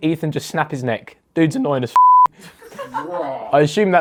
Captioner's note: beep; audience laughs